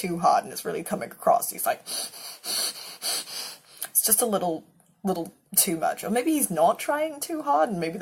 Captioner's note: heavy breathing